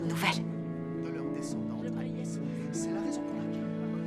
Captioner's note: indistinct conversation